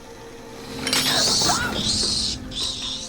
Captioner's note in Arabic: صراخ; لهاث